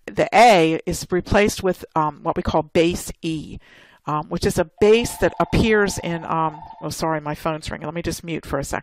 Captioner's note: phone ringing